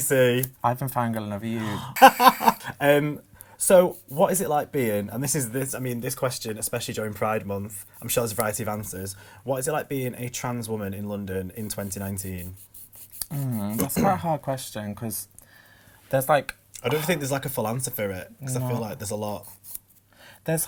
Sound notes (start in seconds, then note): 1.6 laughs